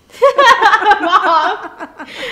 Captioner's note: laughing